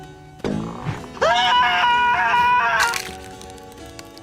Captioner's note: Bootsy screams in horror and pain